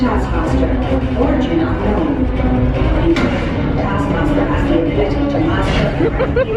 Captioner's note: laughs